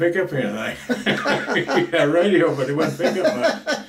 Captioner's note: both laugh